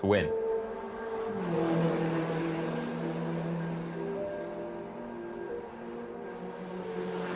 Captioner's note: melancholy music; car engine roaring